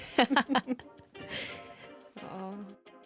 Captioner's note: giggles